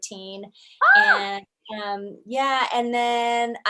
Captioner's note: screams